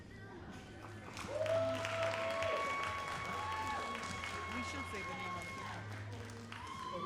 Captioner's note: all applauding and cheering